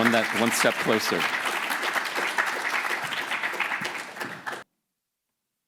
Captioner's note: audience applauding